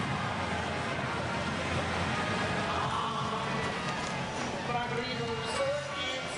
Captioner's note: none